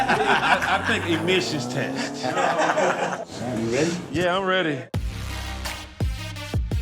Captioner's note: laughter